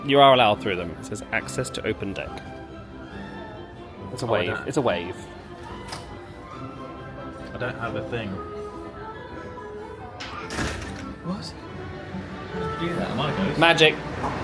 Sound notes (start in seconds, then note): 10.1 door opens